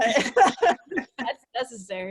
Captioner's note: laughs